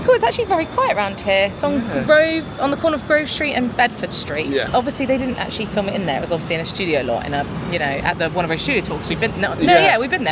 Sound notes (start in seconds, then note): none